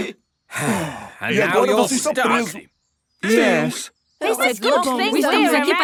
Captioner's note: sigh